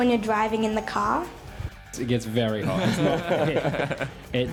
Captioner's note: laughter